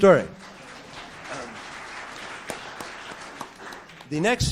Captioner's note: audience applauds